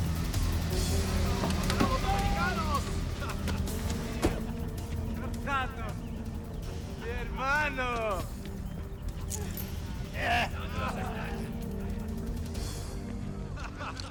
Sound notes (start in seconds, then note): 1.1 people speaking in Spanish